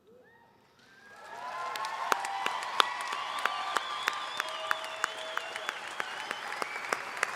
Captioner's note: applause and cheering